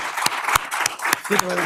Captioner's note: applause